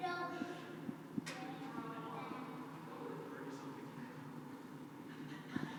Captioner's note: children's voices